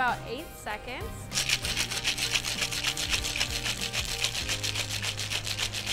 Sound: ice shaking in glass

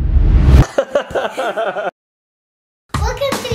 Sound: laughs

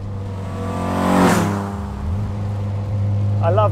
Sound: car roars

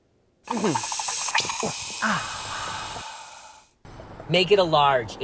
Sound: espresso machine whooshing

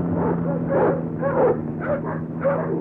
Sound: barking

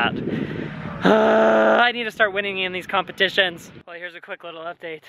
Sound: groans

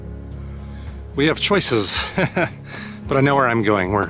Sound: laughs

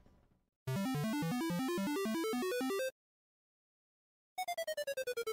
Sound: arcade level up sound; arcade defeated sound

